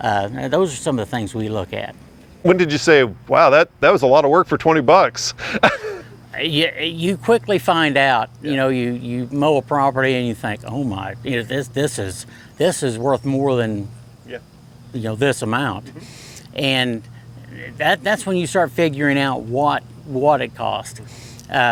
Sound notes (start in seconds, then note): 5.2 laughing